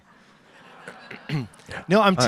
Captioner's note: audience laughs